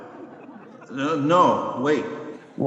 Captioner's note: audience laughing